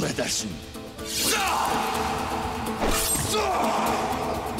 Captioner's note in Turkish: Bağırma sesi